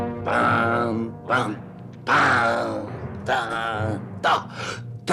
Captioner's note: humming along with music